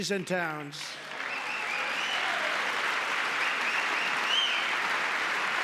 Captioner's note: applause